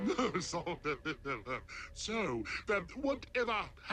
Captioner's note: nervous laughter